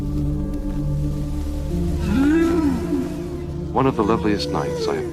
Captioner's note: whales calling